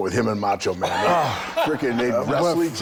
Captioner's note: Bron laughing